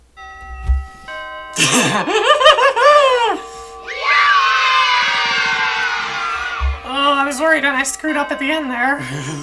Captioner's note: bells Chiming and kids cheering yay!